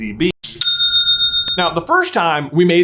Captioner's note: CHA-ching!